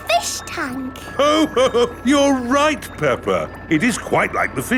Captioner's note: laughs